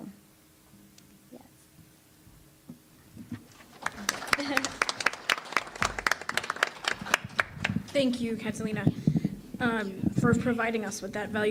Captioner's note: applause